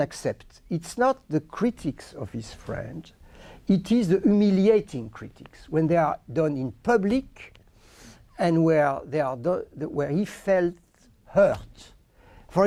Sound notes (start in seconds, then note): none